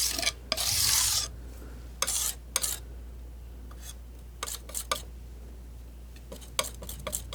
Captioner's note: scratching